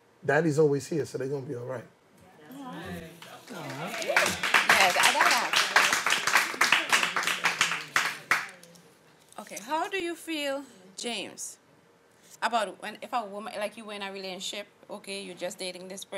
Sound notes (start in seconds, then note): 4.5 aanh; 6.9 applause